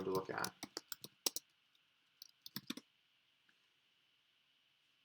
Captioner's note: keyboard clicking